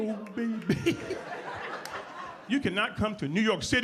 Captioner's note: audience laughs